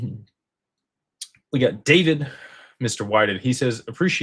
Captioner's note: sighs